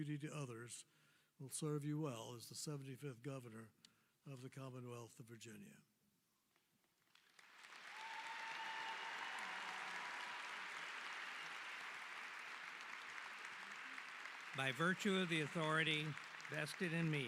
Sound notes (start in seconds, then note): 4.3 applause